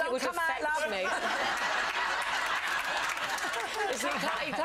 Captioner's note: audience laughs